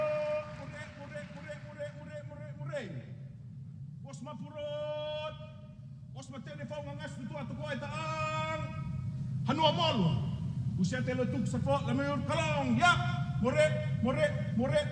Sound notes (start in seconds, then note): 0.0 applause; 0.8 chanting